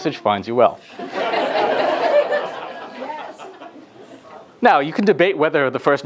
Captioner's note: laughter